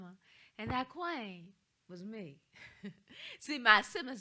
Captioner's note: chuckles